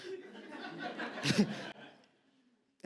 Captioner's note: audience laughs